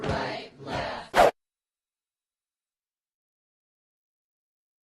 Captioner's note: whooshing